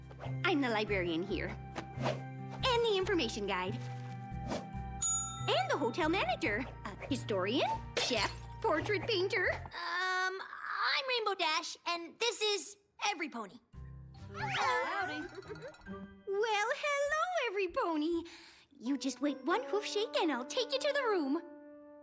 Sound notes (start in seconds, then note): 5.0 bell dings